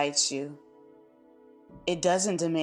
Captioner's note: pause